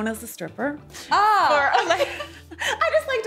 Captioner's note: laughing